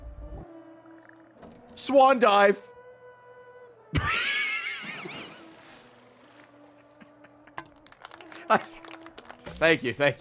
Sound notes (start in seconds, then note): 5.3 laughs